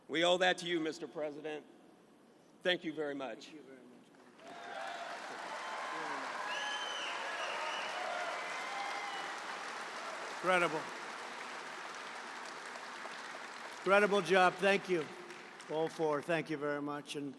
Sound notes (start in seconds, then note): 4.4 applause